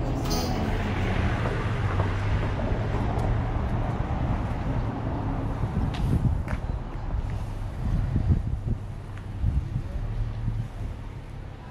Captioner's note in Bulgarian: уличен, градски шум